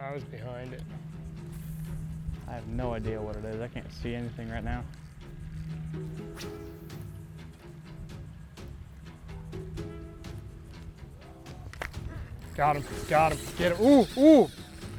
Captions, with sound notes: I was behind it. - I have no idea what it is, I can't see anything right now. (reel casts) - Got him, got him. Ooh, ooh.